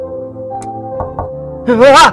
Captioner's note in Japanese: ノック音：コンコン